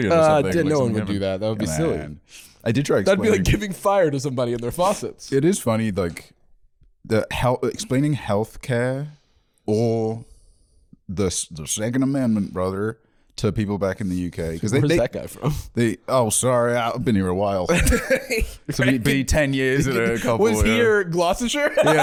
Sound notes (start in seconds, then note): 11.1 southern accent; 15.8 southern accent; 16.9 normal accent